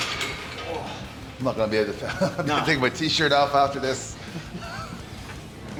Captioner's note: laugh